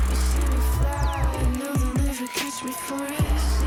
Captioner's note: crowd cheering